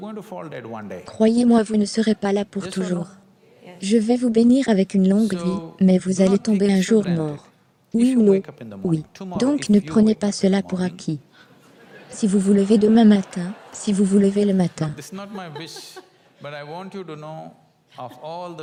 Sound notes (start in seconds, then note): 11.4 audience laughs